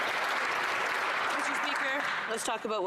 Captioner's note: some Applause